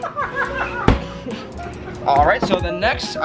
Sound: laughing

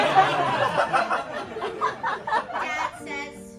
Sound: laughter

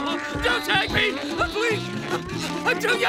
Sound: crying

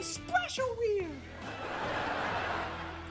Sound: laughing

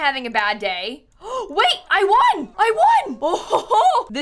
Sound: gasps

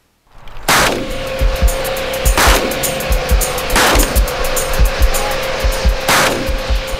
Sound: sounds of shooting

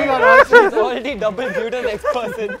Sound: laughter

